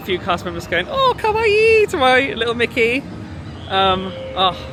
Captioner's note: speaks in Japanese